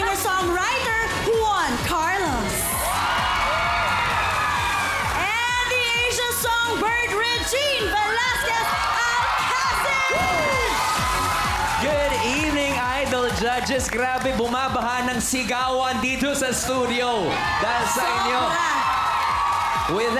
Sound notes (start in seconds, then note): 3.1 cheering, applause; 3.1 upbeat music continues; 10.2 cheering, applause